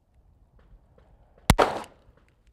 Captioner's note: bang